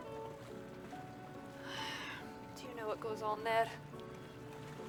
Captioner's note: sighs